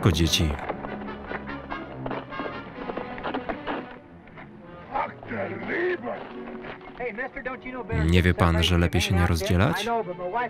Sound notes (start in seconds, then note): 5.1 speaking in foreign language